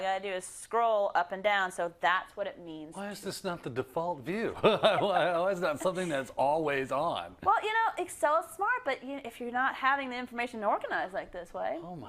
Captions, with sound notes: All I got to do is scroll up and down so that's what it means. -Why is this not the default view? [LAUGH] -Why is that not something that's always on? -Well you know it's so smart but if you're not having the information organized like this way.